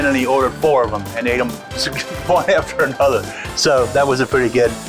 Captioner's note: laughs